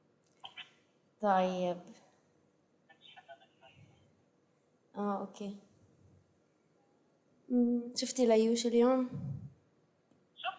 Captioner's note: non-english speech